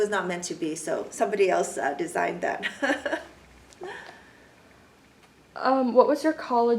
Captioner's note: laughs